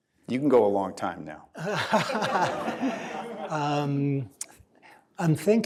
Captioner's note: laughter